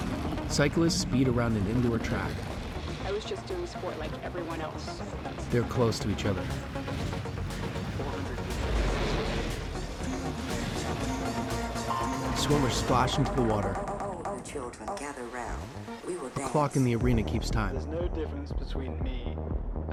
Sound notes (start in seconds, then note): 0.0 whirring; 11.8 starter tone; 11.8 whooshing